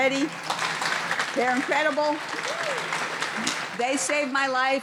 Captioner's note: audience applauding